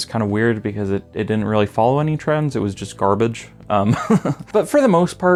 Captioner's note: laughs